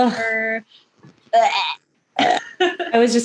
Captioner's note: laughs; fake vomit noises